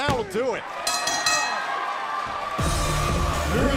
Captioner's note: bell ringing